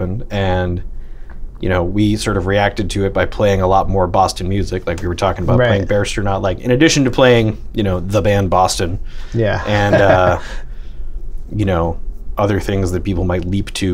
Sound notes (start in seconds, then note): 9.5 laughter